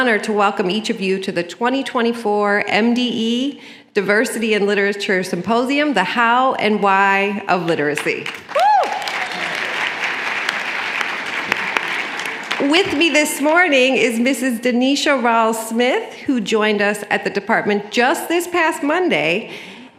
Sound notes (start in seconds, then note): 8.0 applause